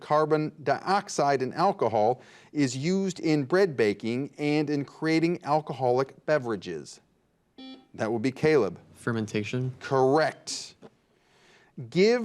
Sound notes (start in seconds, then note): 7.6 buzzer beeps